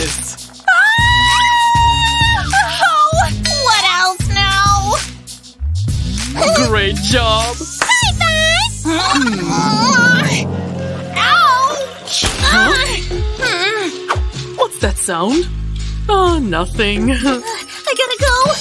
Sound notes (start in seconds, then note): 0.6 screaming; 11.3 groans